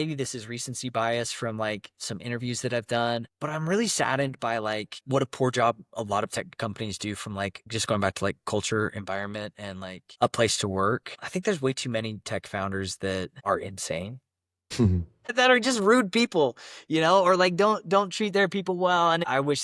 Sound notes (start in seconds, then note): 14.8 laughs